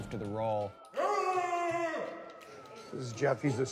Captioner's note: shouts